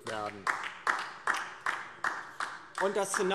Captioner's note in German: Beifall DIE LINKE